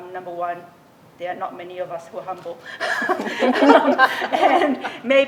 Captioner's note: laughs